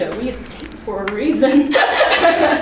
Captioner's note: laughs